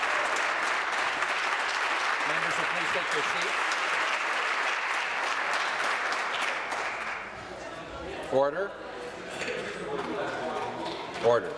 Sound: applause

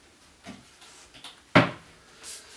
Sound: cabinet closes

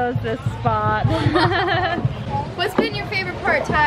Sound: everyone laughing

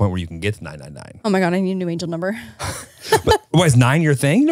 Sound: laughs

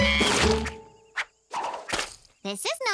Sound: splat

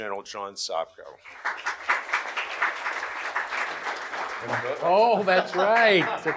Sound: audience applauds

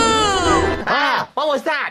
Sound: ahh

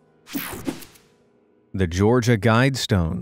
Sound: picture swooshes

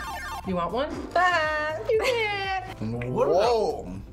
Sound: laughs

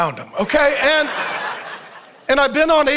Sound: audience laughs

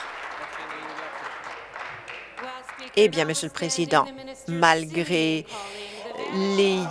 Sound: applause

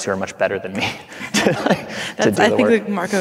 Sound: laughing

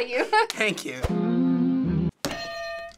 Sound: hitting bell; humming

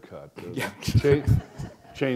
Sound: chuckle

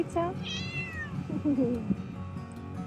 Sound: cat meow

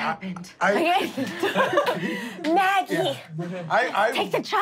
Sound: laughing

